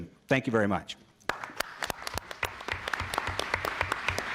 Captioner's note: applause